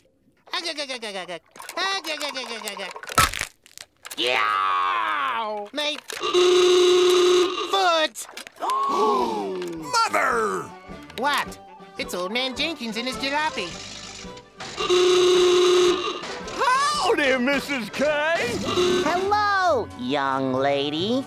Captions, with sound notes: [laughing] Yeeeoww! My... [horn honking] ...foot! [gasping] Mother! What? It's Old Man Jenkins and his jalopy. [horn honking] Howdy, Mrs. K! Hello, young lady.